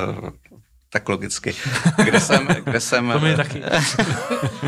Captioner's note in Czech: smích